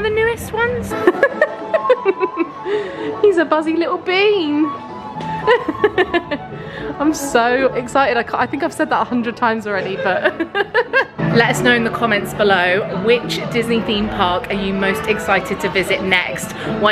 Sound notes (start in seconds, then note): 0.9 laughs; 9.9 laughs